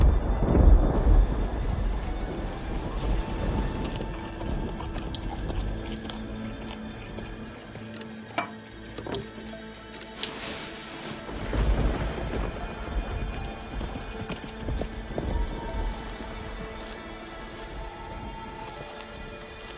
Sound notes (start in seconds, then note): 0.0 thunder claps; 3.9 horse galloping; 11.2 thunder claps; 15.3 horse galloping; 17.7 owl hoots